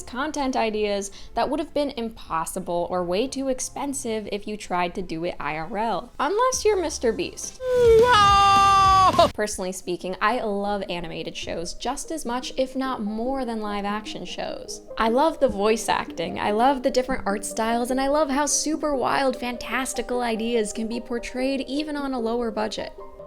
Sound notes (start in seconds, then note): 7.8 Mr. Beast yelling